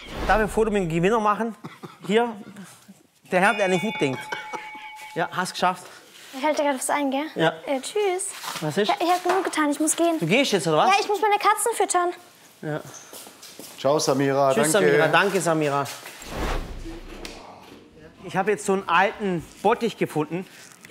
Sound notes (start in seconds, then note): 3.3 Glockenläuten